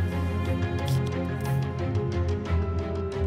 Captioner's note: pencil scratching against a paper